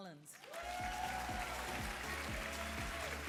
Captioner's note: applause and cheering